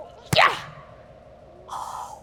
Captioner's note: grunts